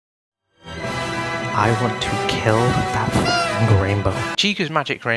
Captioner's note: honk